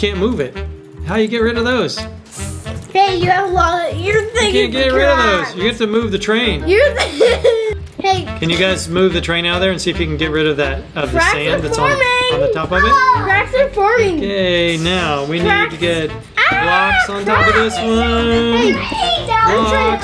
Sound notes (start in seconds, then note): 2.8 child mumbling; 18.6 children mumbling